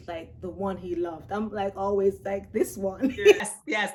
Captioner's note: laughs